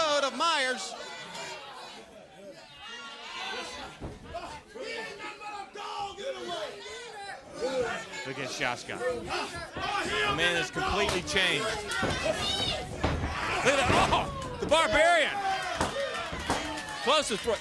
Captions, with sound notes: TOO. THEY'RE HOLDING HIM. >> THAT WAS RIGHT IN THE THROAT--RIGHT IN THE THROAT OF MYERS. >> [CROWD CHATTER] >> WE AIN'T HAVING A DOG ANYWAY. >> [CROWD CHATTER] >> LOOK AT SHASKA. >> THE MAN HAS COMPLETELY